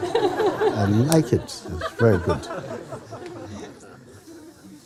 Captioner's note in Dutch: gelach